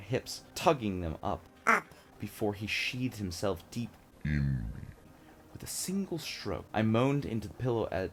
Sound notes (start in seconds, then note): 1.6 high-pitched voice; 4.1 deep voice